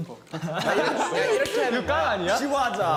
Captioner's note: heheh